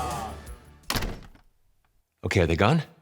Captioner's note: door shuts